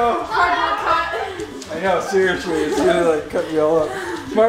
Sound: murmurs

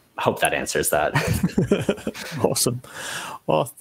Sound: both laughing

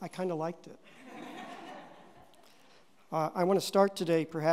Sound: audience laughing

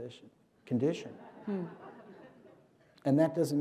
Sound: laughter

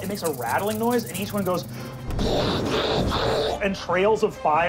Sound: growling; rattling; exploding

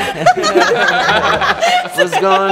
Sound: everyone laughing

